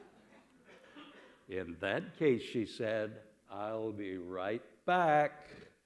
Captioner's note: laughter